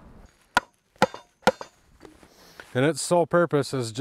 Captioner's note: hammer clanging